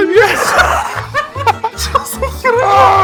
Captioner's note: laugh